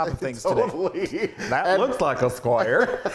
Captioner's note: laughing